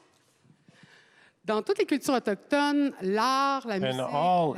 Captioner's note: speaking French